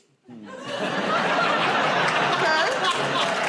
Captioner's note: laughter